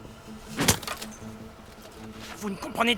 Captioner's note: stick clatters